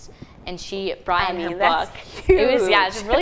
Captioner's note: laughing